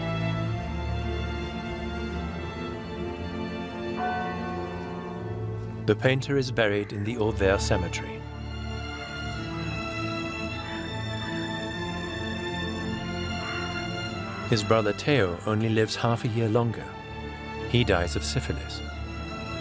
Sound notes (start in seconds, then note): 3.9 church bell tolls once; 8.7 violin music plays